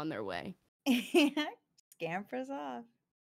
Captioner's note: laughs